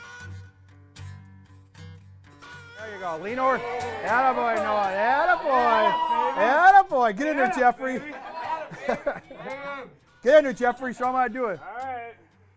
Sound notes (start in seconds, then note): 7.9 cheering